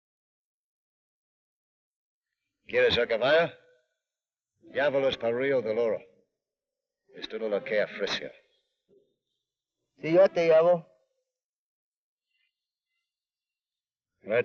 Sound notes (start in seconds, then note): 2.8 Ben speaks foreign language